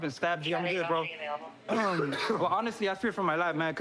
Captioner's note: coughs